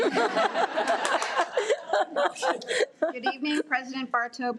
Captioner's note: audience laughs